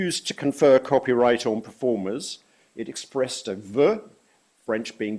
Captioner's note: french